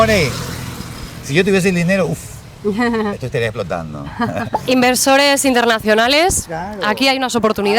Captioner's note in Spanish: risas